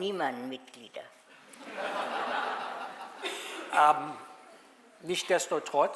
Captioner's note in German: Publikum lacht